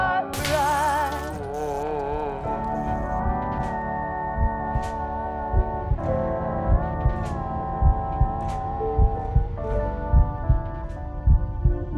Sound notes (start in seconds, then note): 5.4 heart beating